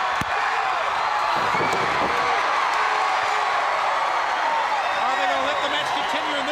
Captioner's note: crowd cheering